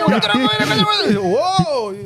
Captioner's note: speaking In Foreign Language